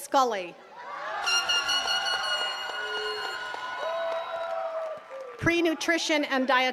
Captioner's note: attendees cheering and clapping